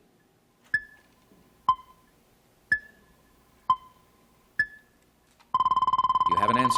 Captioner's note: timer dinging